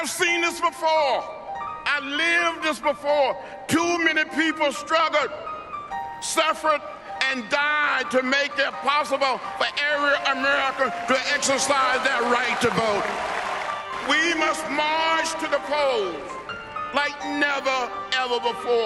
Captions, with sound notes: - I've seen this before, I've lived this before. Too many people struggled, suffered, and died to make it possible for every American to exercise that right to vote. (simple, melodic piano music) (cheering and clapping) We must march to the polls like never ever before.